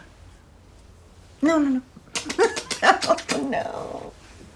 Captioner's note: chuckling